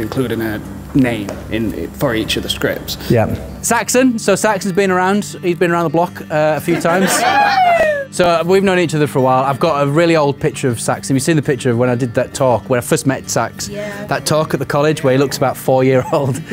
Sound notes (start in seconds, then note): 6.6 laughing; 7.0 cheering